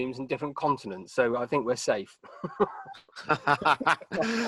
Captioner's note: laughing